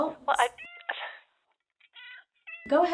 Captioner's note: cat meowing